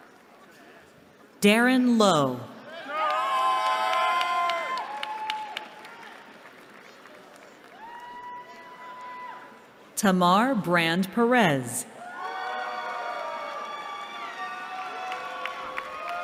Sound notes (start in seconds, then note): 2.6 cheering; 12.0 cheering